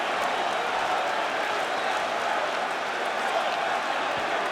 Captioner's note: audience chanting